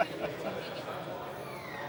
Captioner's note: laughs